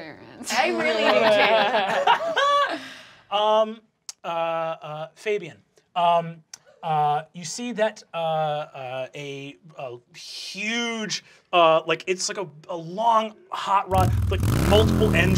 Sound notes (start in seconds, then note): 0.6 laughter; 0.6 laughing; 13.9 engine revving